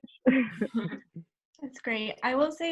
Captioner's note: laughs